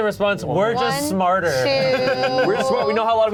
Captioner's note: laughing